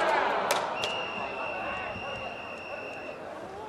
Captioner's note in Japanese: ホイッスル